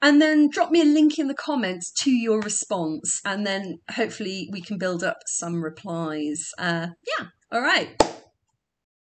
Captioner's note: clap